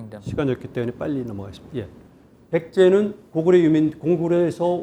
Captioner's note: speaking in Korean